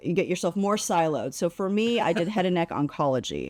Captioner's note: laughs